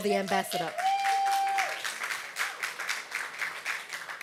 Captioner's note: applause